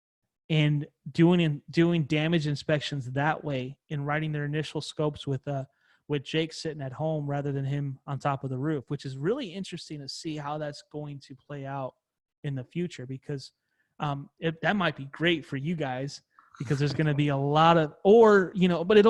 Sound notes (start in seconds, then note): 16.6 laughs